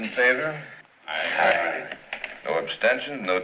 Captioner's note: men agreeing